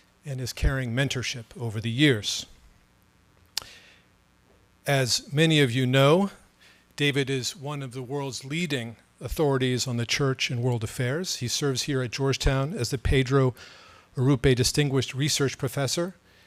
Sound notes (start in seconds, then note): none